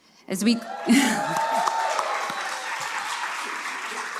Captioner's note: cheering, applause